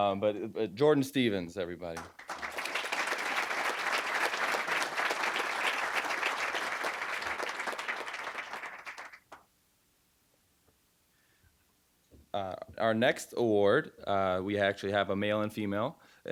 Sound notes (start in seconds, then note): 1.9 applause